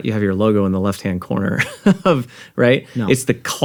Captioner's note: chuckles